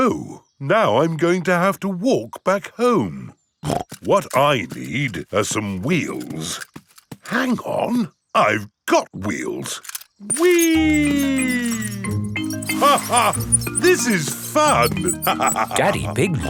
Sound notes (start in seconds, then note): 3.9 snorts; 13.2 laughs